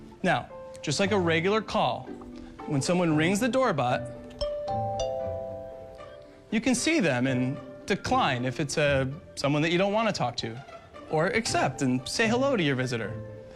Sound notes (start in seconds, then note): 4.3 DoorBot Ringing